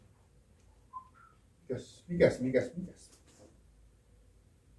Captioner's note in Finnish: viheltää